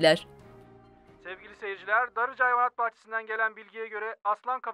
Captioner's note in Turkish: Televizyon ses